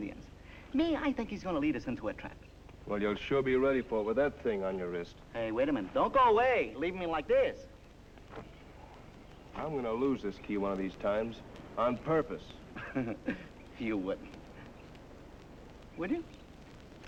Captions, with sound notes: Me, I think he's going to lead us into a trap. Well you'll sure be ready with that thing on your wrist. Hey, wait a minute. Don't go away! leave me like this! I'm going to lose this key one of these times... On purpose. (laughter) You wouldn't. Would you?